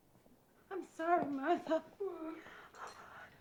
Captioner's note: sobbing